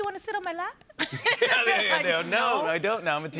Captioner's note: both laugh